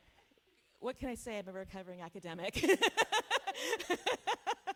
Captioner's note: laughs